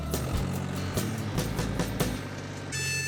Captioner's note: tractor revving; playing harmonica